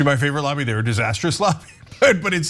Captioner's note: laugh